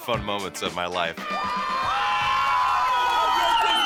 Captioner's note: cheering